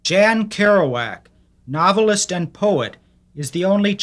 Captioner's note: voiceover